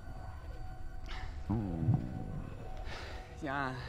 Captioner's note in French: gargouillis